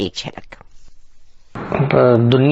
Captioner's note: recorded voice